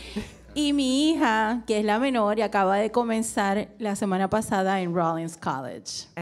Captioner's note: speaking in foreign language